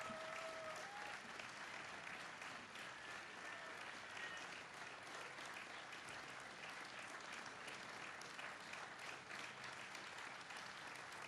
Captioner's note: applause